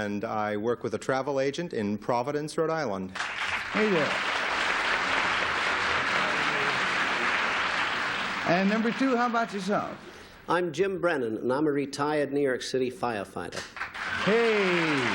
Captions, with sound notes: - My real name is Joe Morrow, and I work with a travel agent in Providence, Rhode Island. - Thank you. [applause] - And, number two, how about yourself? - I'm Jim Brennan, and I'm a retired New York City firefighter.